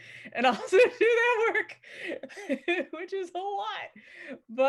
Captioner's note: laughs heartily